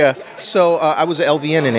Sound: laughter

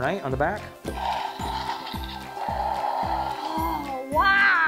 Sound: toy roaring

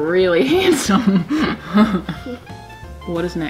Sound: laughing

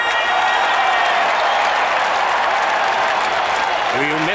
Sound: cheering

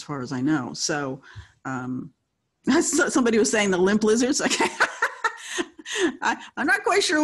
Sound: laughing

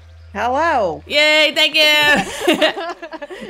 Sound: laugh

